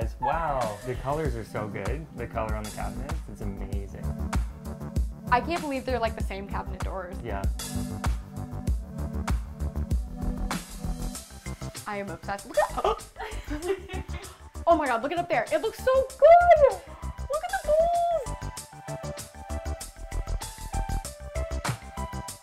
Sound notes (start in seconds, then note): 14.2 gasps; 19.6 upbeat music